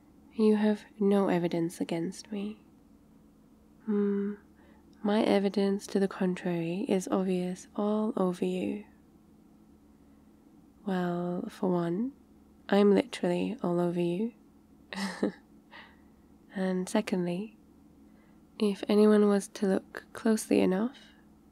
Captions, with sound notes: you have no evidence against me mm... my evidence to the contrary is obvious all over you well, for one... I'm literally all over you *laughs* and secondly if anyone was to look closely enough